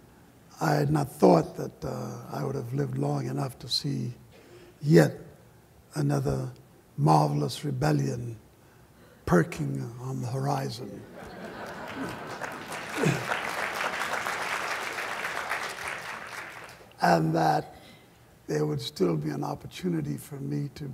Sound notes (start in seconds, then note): 11.3 applause